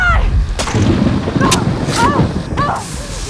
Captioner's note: panting